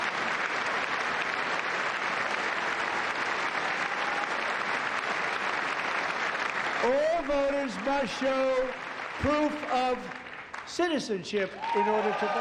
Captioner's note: applause